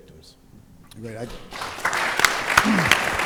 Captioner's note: applause